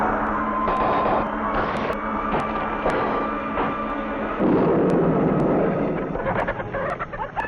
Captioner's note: machine hums; metal crashes; chickens clucking